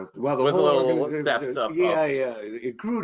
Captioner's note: indistinct overlapping chatter